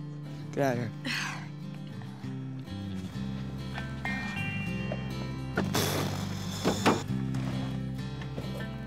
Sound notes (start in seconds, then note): 0.0 mellow music; 1.0 sighs